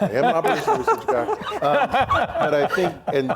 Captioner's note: laughing